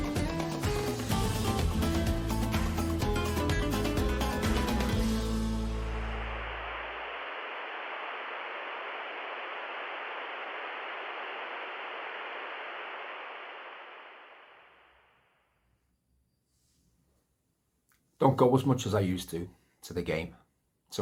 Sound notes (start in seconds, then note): 0.0 up-tempo Latin music; 5.4 static noise